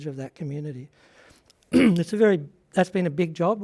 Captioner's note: clears throat